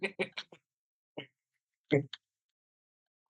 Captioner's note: laughing